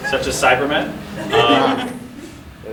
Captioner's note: audience laughing